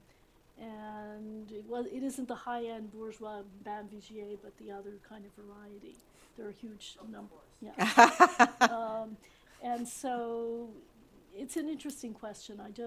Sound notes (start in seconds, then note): 3.6 french